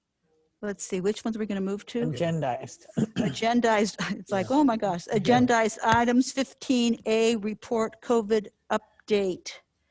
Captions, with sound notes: Let's see which ones are we gonna move to? - Agendized. (clears throat) - Agendized. (chuckles) It's like, oh my gosh. - Yeah. - Agendized items 15A report COVID update.